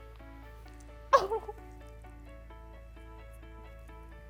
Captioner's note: cries happily